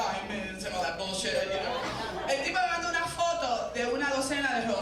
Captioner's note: speaking Spanish